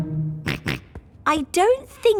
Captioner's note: snorts